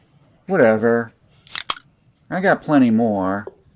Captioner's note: beer opening sound